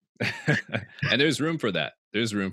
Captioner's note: all laughing